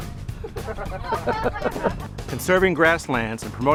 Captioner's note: chuckling